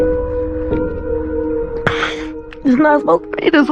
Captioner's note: somber music plays; sniffling, voice breaks